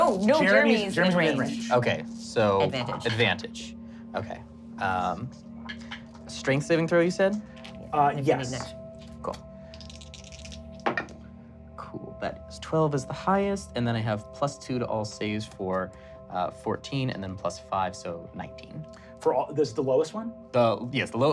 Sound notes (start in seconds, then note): 9.7 rolling dice